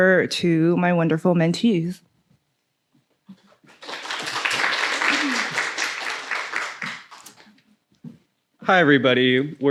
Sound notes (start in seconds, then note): 3.6 applause